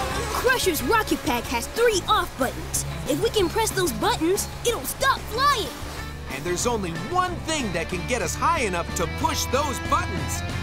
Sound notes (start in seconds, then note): none